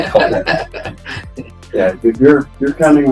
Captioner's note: laughing